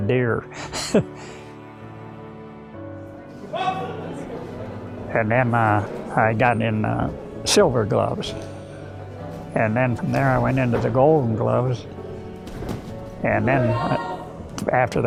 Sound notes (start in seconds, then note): 0.6 chuckles; 3.4 men shouting